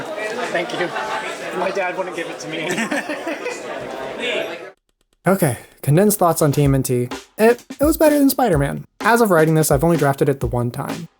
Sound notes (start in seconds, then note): 2.7 laughs